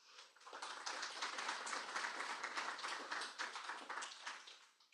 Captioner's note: applause